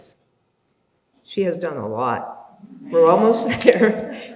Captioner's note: chuckles